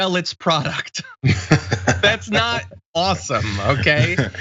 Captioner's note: laugh